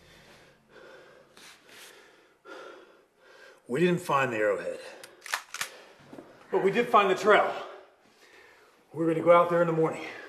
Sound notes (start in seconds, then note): 5.0 gun cocks